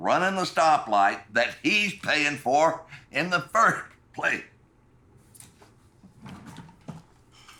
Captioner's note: coughing